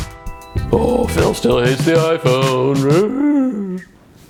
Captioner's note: moaning sarcastically